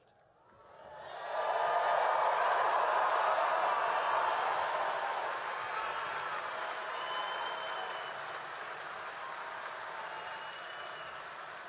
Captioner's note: applause and cheering